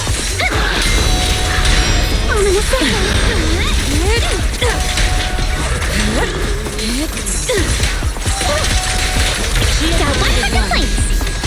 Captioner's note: haha